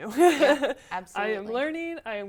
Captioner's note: laugh